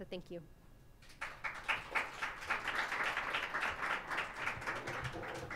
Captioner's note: audience applauding